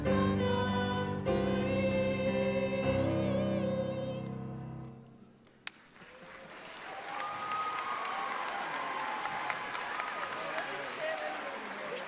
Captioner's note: applause